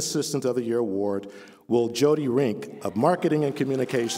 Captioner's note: applause